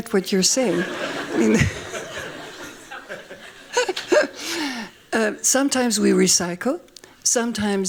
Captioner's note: laughing; laughs